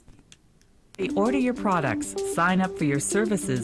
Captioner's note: voiceover